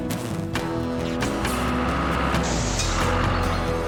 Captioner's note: engine Running